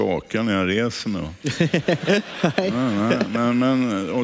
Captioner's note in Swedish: publiken skrattar